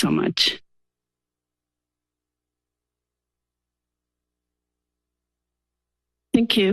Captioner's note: silence